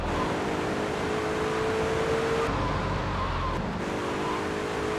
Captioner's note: car engine roaring